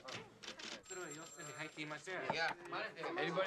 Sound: chattering in japanese

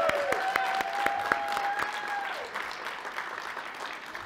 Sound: cheers and applause

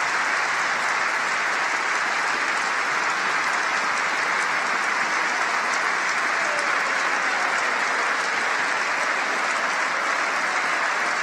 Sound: applause

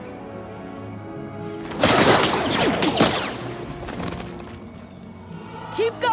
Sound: explosions, blaster fire

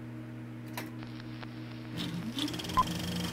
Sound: film whirring

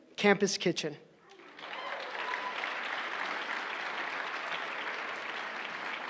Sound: applause

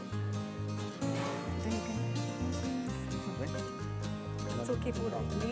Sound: mumble

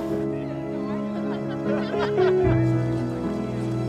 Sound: people chattering and laughing; gentle music continues

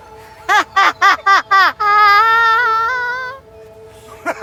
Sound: laughing

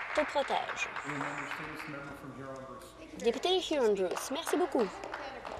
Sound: applause

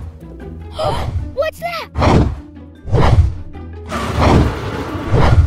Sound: swooshing noises

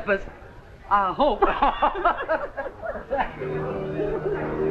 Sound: laughter

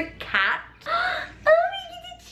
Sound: gasps

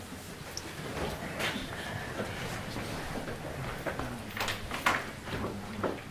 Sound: murmuring

